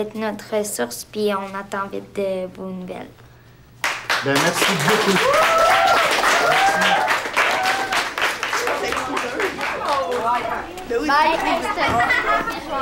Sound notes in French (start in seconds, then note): 3.8 applaudissements; 4.7 acclamations